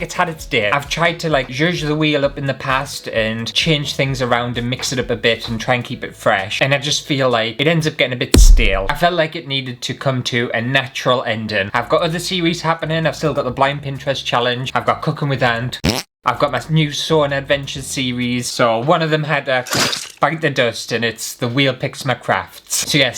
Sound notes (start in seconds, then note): 15.8 fart!